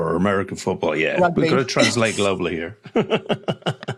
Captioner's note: laughs